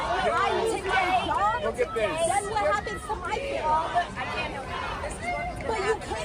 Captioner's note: chanting